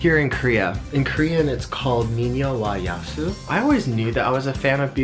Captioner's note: speaks Korean